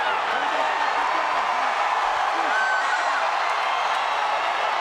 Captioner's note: audience cheering and clapping